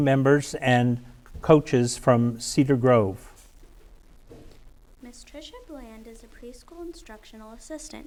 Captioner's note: none